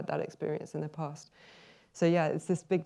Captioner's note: inhales